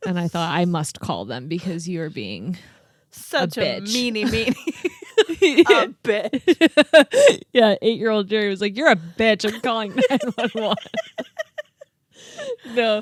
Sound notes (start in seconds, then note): 4.2 laugh